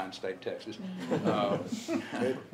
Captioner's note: laughter